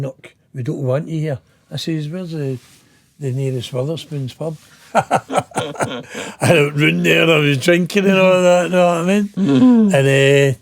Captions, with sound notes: look we don't want you here", I says, "where's the nearest Weatherspoons pub?" (laughing) I ran there, I was drinking and all of that.